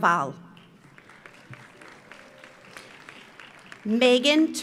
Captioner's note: audience applauds